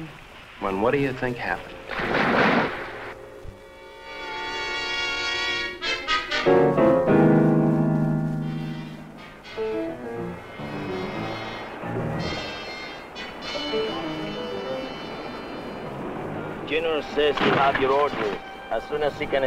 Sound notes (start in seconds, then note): 1.1 water whooshing; 3.4 intense instrumental music